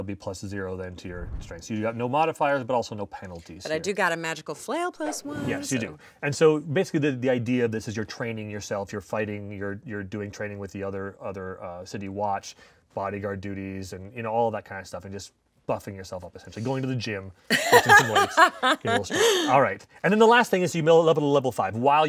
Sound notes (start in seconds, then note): 17.5 laughing